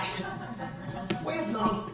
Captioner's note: crowd laughing